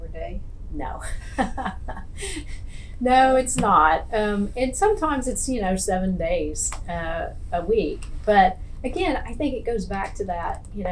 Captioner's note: laughs